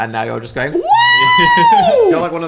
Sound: laughs

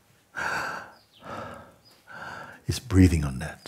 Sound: inhales and exhales

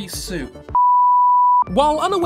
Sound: beep

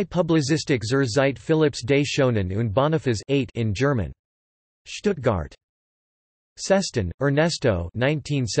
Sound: in German

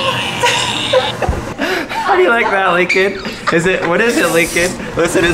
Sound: laughing

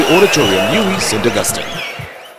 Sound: wild applause and cheering for 22 seconds

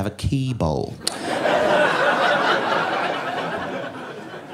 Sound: audience laughing

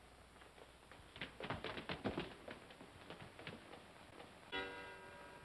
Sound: feet scrambling; clock chimes

